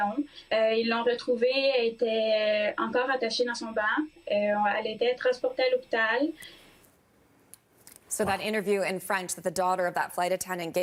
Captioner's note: speaking french